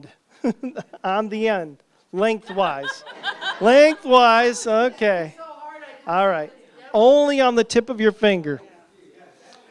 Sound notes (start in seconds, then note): 2.3 chuckles; 2.4 laughter